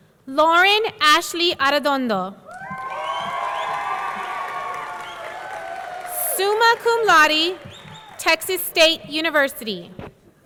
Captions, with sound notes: Lauren Ashley Arredondo. (audience cheering) (audience clapping) Summa Laude, Texas State University.